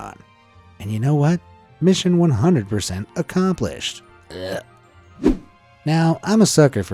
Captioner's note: gags; image whooshing